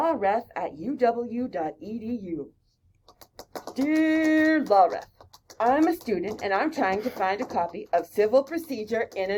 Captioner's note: typing